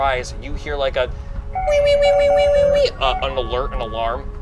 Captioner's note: alarm blares